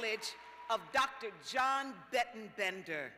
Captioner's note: cheers and applause